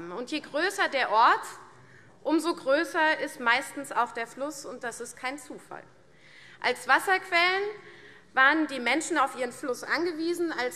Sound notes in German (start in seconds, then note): none